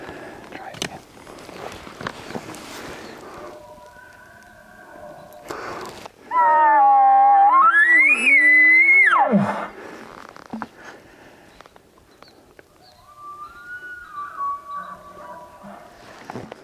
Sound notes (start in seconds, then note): 3.2 bull bugling; 6.1 caller bugling; 12.6 bull bugling